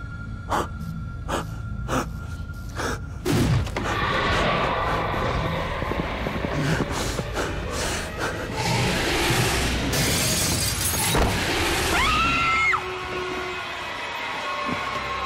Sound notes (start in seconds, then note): 1.2 victim gasping; 3.3 werewolf whooshes away; 3.9 werewolf roars; 10.2 glass shattering; 11.9 onlooker screams